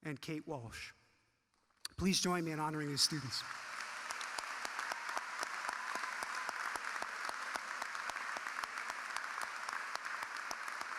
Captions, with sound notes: And Kate Walsh. Please join me in honoring the students. (audience clapping)